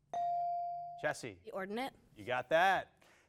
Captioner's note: bell dings